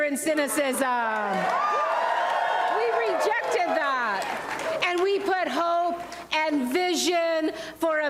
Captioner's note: applause